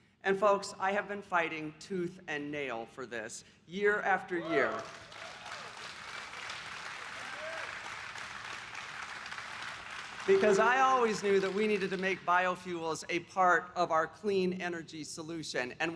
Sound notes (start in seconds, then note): 4.5 applause